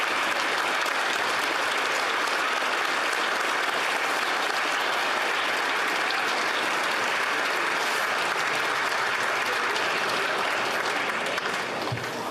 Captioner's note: applause